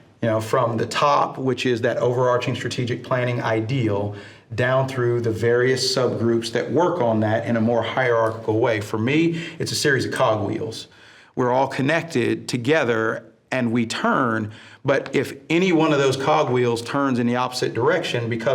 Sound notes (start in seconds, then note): none